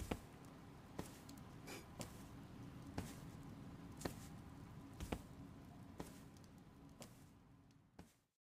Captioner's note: quiet footsteps leave